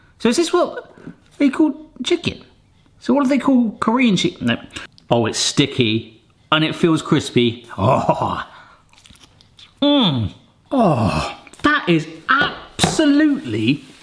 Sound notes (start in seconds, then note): 7.8 laughs; 8.9 chicken crunches